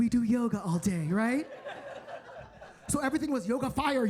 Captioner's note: audience laughing